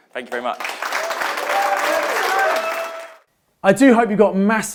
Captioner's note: audience applauding; audience cheering